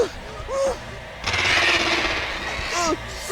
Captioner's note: animal chittering